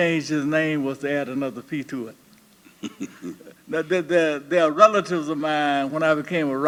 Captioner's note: laughter